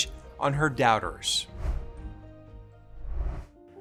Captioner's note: graphics whoosh